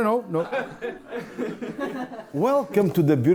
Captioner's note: laugh